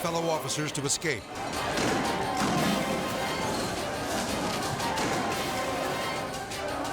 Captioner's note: intense music; explosion booming